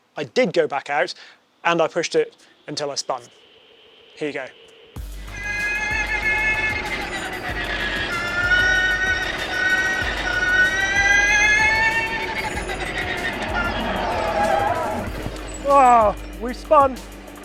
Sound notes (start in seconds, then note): 5.4 engine revving; 14.4 tires screeching